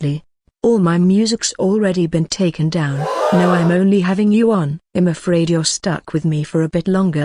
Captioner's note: gasp